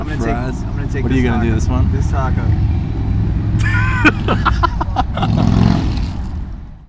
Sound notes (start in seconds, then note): 3.5 laughing